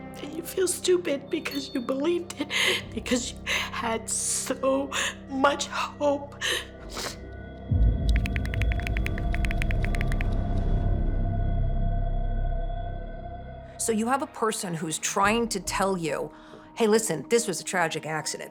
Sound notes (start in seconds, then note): 6.8 sniffs